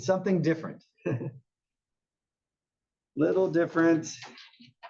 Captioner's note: laugh